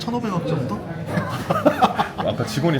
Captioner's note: laughs